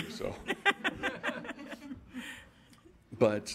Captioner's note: laughing